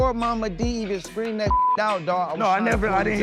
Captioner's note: beep